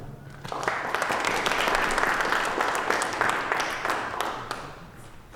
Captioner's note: applause